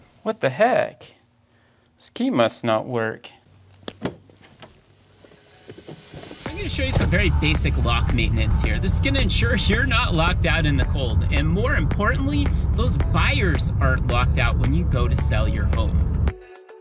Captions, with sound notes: What the heck. This key must not work. [opening car door] I am going to show you some basic lock maintenance. This can ensure you're not locked out in the cold and more importantly those buyers aren't locked out when you go to sell your home.